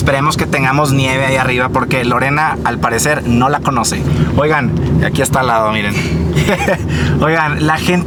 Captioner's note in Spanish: risas